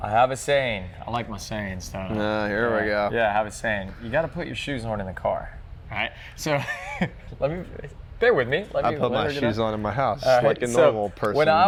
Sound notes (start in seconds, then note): 6.6 laughs